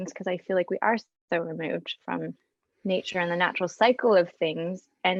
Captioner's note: none